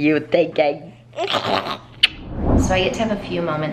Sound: raspberry kissing

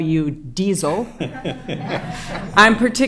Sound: laughter

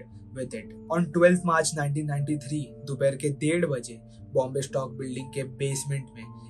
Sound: Hindi

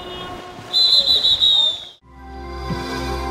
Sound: whistle blows; soft music

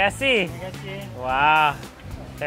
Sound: speaks in foreign language; chef speaks in a foreign language; speaks in foreign language

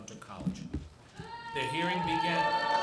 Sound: audience shouts

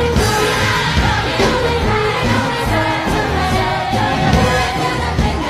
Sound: he only had himself to blame - an overlapping echo

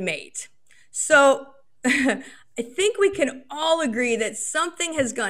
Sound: chuckles

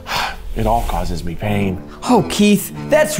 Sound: sighs sharply

